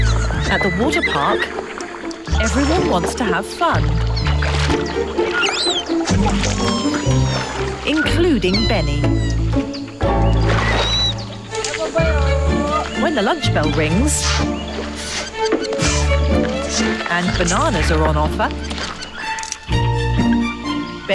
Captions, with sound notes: At the water park, everyone wants to have fun. (light quirky music) (orangutan squealing) Including Beni. When the lunch bell rings and bananas are on offer, (light quirky music)